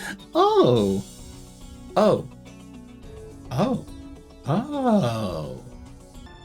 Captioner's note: the sounds of a girl realising she’s, in fact, a girl